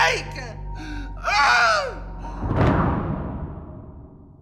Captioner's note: grunts